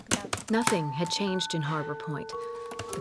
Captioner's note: typing